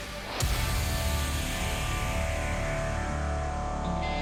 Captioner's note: air whooshes